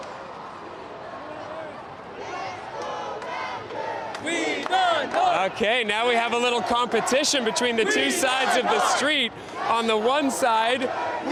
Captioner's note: chanting